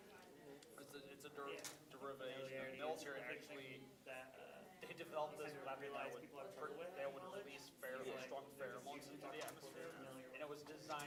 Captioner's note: students chattering